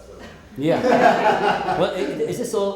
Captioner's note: group laughing